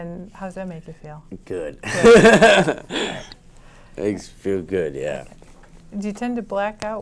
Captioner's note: laughs